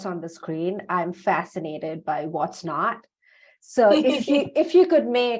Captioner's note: laughs